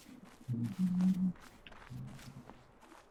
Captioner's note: humming